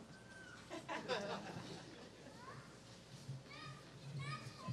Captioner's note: laughter